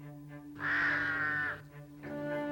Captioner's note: cawing